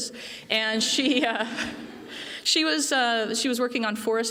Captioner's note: laughter